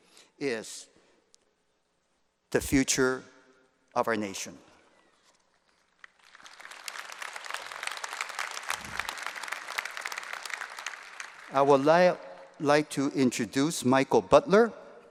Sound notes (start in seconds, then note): 5.6 applause